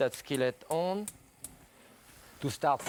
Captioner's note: buttons clicking